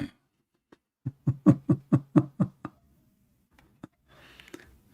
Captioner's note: Ketawa